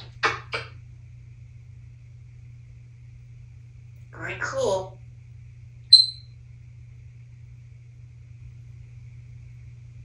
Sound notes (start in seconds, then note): 0.6 kisses